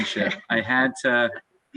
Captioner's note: laughing loudly